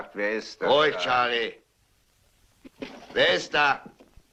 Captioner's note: clattering